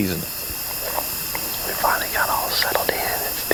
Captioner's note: whispering